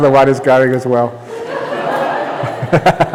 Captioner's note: roaring laughter; laughter